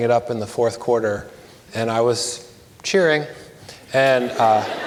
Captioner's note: audience laughs